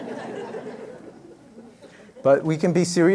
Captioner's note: laughter